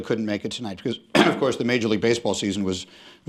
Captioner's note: clears throat